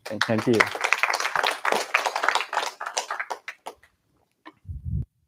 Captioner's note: applause